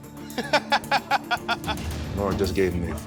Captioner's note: laughing